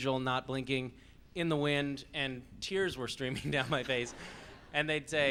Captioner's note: laughing